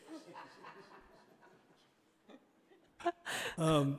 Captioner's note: everyone laughs